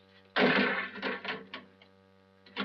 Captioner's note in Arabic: يصطدم موقد اللحام بالطاولة